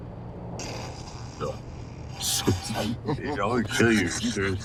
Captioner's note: Tyson chortling